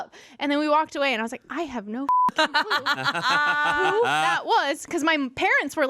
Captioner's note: beep